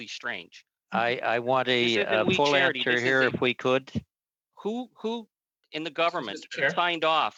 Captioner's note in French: voix de l'interprète